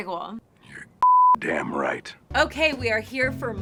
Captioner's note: beeping noise